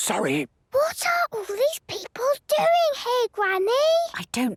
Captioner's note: whispering; quietly